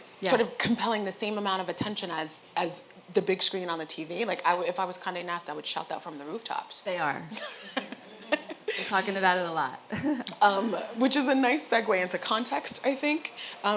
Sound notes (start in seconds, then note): 7.4 laugh